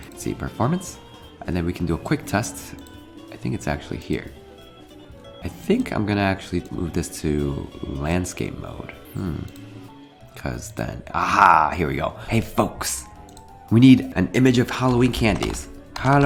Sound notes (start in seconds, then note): 9.1 hums